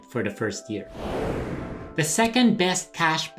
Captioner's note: whooshing